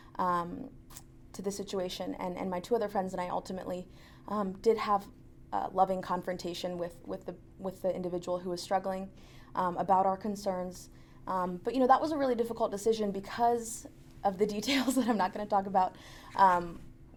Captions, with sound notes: to the situation. And my two other friends and I ultimately did have a loving confrontation with the individual who was struggling about our concerns. But that was a really difficult decision because of the details (laughs) that I'm not gonna talk about.